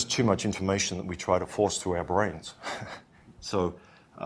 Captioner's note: chuckles